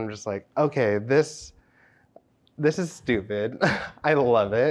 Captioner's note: laughs